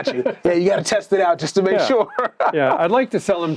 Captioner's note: laughs